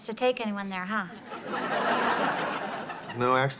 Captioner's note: audience laughs